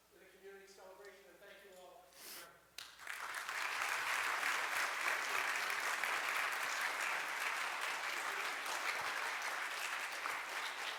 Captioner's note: audience applause